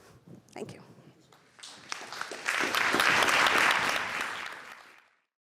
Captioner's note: applause